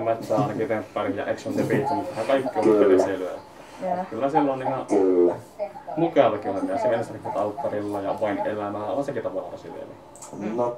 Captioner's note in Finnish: naurahtaa